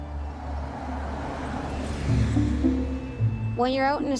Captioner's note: traffic passing